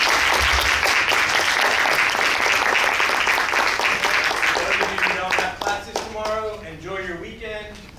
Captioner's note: claps